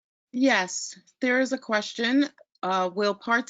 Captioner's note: voiceover